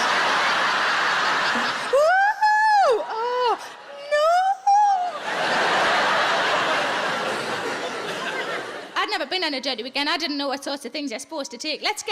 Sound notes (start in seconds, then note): 0.0 audience laughs; 1.7 Sarah whoops; 5.0 audience laughs